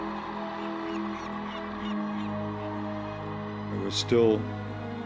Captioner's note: seagull squawking